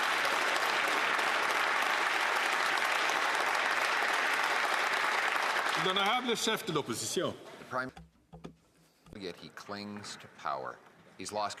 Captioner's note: some Applause